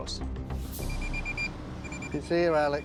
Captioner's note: beeping